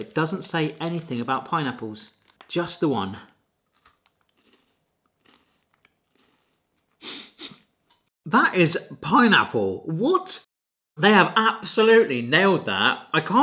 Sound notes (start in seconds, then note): 3.7 Kit Kat crunching; 7.5 giggling